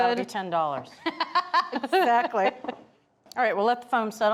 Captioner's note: laughs